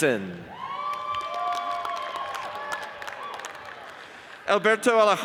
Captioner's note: audience cheers and applauds